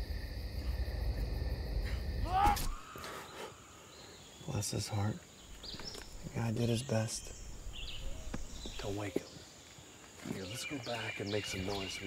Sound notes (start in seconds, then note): 2.2 distant scream; 2.2 loud grunt